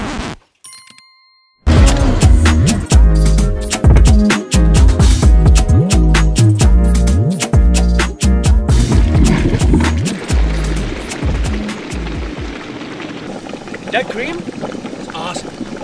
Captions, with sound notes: (music skipping) (upbeat music) (water bubbling) - That cream is awesome.